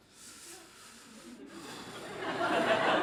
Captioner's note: puffs